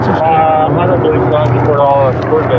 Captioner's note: radadio c chahatter